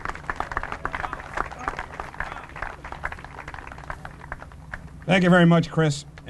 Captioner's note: applause